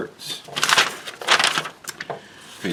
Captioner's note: paper crinkles